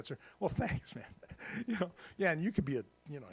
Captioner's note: laughs